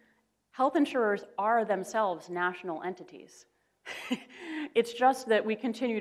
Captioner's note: laughs